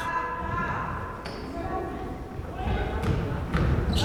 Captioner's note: crowd chattering